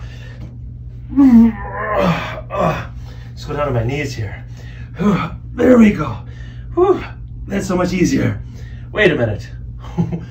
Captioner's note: grunts & Groans